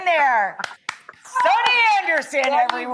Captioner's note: clapping